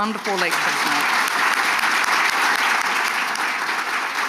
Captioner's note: audience applauds